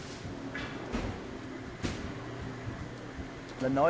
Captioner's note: shop noises